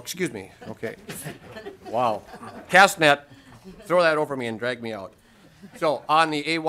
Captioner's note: laughter